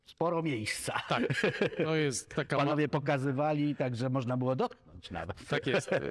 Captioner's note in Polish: śmiech